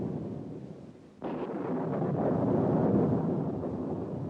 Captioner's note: thunder continues crashing, rumbling